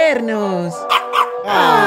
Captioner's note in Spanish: ladrido de cachorro